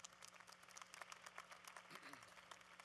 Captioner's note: applause